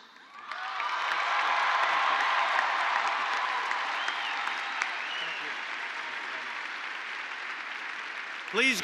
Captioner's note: applause